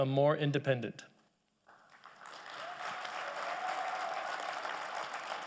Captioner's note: audience applauding